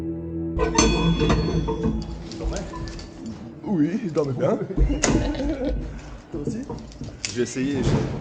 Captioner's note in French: rires